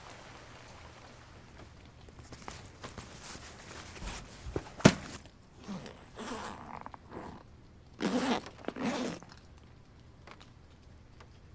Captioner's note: zipper on a backpack